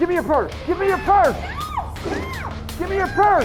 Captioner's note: screams